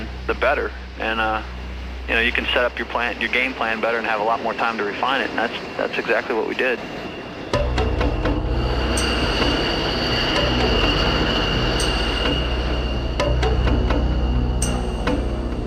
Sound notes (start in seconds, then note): 7.6 upbeat music playing; 9.8 plane noise; 13.4 upbeat music continues